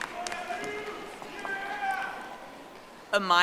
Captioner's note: audience applauding